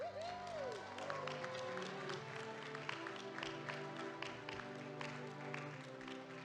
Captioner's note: audience applauding